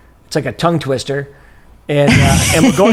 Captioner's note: laughs